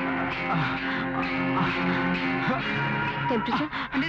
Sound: groans

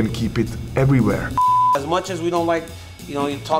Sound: screen beeps

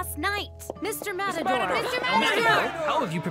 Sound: crowd

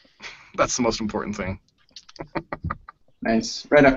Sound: laughs

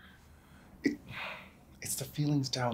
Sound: sighs

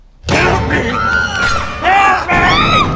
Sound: screaming

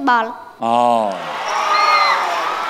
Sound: cheer and applause

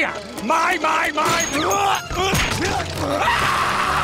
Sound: grunting; screaming

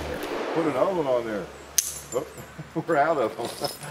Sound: hammer falls on empty chamber

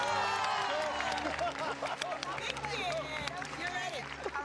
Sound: cheers and applause; laughing

